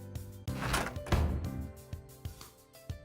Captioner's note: slam